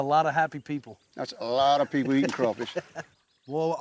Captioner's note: chuckling